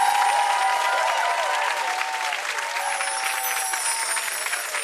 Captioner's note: audience applause fades